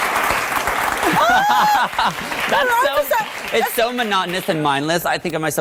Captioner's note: audience applause; laughs